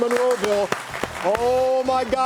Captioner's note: audience clapping